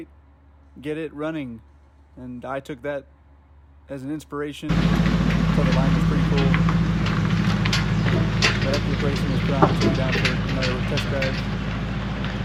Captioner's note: noisy Truck Sounds Intensify